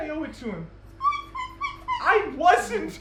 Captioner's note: in squeaks